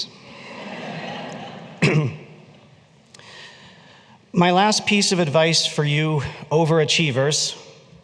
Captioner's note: laughter